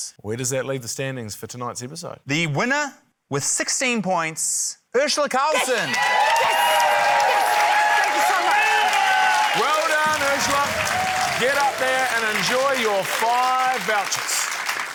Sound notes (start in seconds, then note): 8.3 cheering, applause